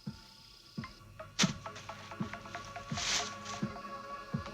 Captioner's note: stick thuds